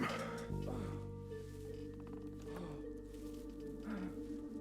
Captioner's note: mr. grey grunting